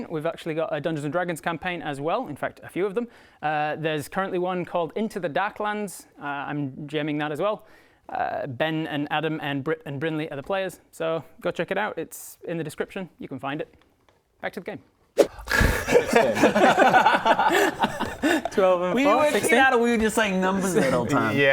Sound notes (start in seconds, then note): 16.8 did-you-go-to-school laughter